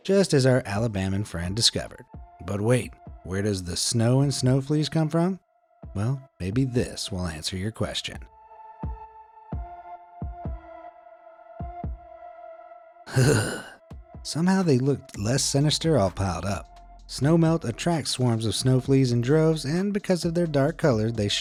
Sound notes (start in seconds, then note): 9.4 dramatic music; 13.2 narrator shudders